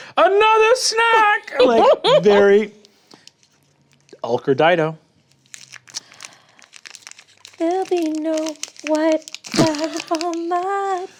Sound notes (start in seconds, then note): 1.4 laughs